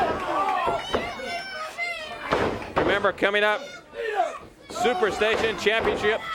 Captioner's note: crowd cheering